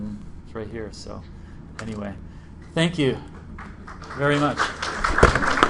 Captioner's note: applause